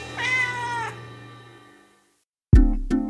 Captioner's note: cat meowing; lighthearted music